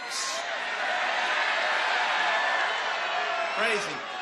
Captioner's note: applause